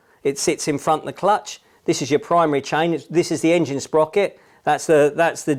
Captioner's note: none